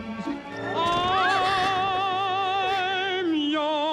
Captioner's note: gasps